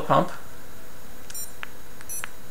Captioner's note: 4 slow beeps